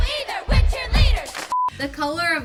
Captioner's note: beep